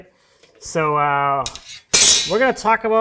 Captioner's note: metal track clangs